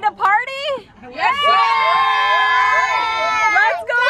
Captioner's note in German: Menge jubelt